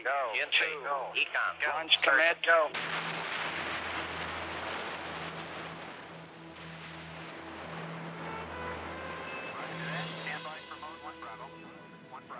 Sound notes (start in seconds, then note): 2.7 rocket thrusters blasting; 2.8 dramatic music